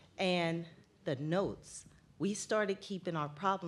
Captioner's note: none